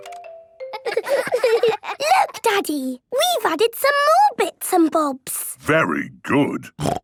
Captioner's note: laughter